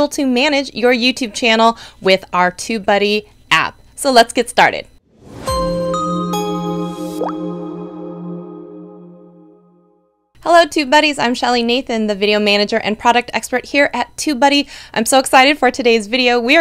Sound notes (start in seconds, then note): 5.1 logo whooshing